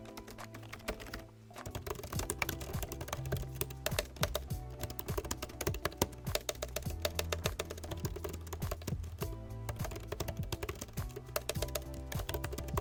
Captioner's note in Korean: 맥북프로14 키보드 타이핑